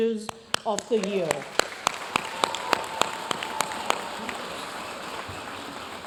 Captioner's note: audience cheering and applauding